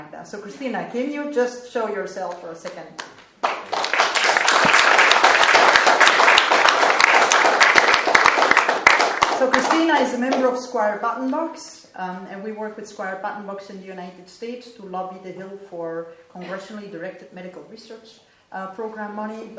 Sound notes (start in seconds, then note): 3.0 applause